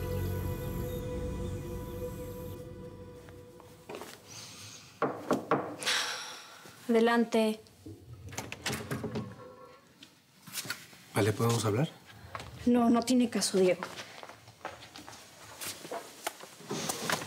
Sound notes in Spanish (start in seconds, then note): 5.0 toques en la puerta; 8.2 sonido al abrir la puerta